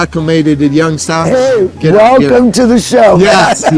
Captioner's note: laughing